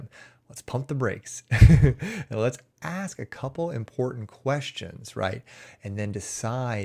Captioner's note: chuckles